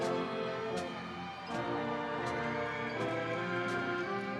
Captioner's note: audience cheering